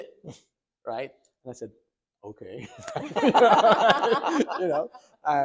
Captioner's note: doctors laughing